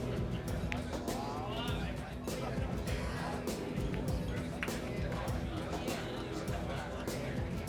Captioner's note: uptempo rock music continues; patrons continue chattering indistinctly; uptempo rock music continues